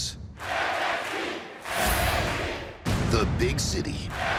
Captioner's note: fans chanting